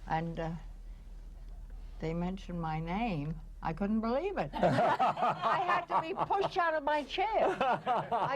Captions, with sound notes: and they mentioned my name. I couldn't believe it. (laughing) I had to be pushed out of my chair.